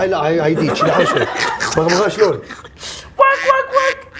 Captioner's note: laughing